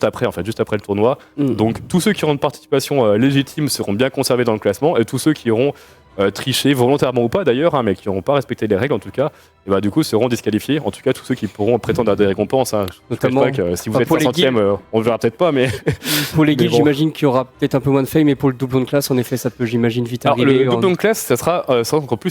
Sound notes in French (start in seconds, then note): 15.6 rires